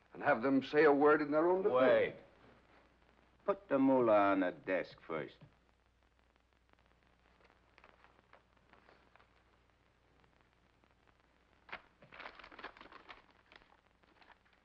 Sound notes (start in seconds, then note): 11.6 envelope rustles